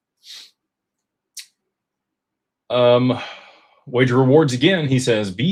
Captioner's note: snorts